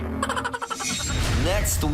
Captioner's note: laughter sfx